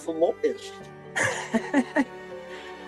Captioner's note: laughs